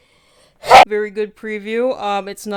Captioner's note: very loud sneeze